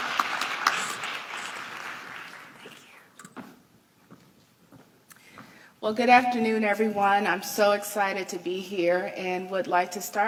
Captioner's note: applause